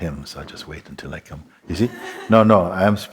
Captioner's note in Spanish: Risa suave